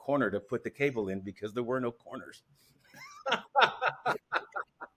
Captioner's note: laughs